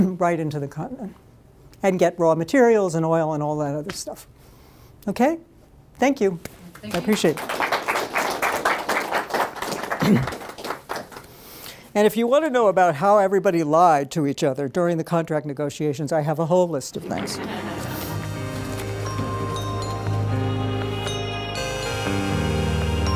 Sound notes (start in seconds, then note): 6.7 applause; 17.0 closing music; 17.0 laughter